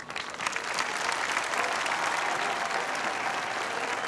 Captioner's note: all applauding